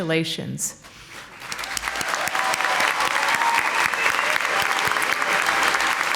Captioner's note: audience applauding